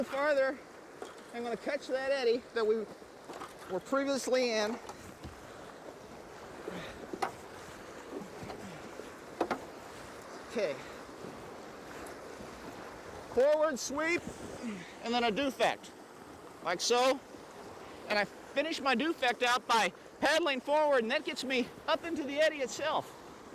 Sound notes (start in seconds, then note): 5.5 water rushing; 6.6 man breathing heavily